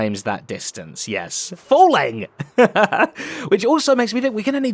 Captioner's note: laughs